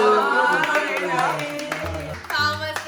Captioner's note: applause